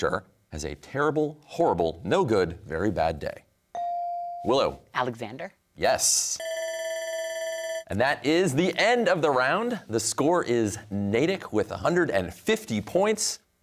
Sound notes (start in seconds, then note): 6.4 bell ringing